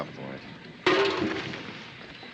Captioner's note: clang